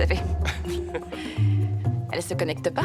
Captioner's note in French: Colin glousse